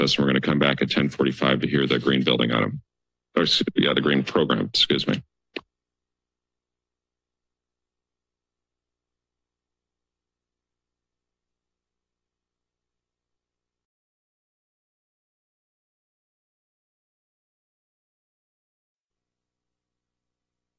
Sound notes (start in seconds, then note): 7.9 silence